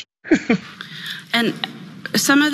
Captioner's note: laugh